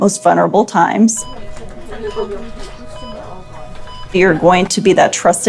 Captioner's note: machine beeping